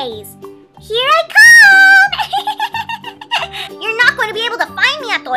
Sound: laughs

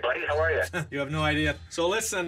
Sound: scoffing

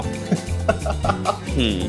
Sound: laughing

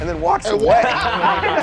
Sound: laughter

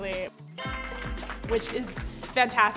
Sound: applauding

